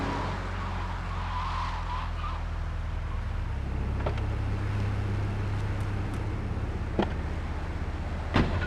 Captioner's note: tires screeching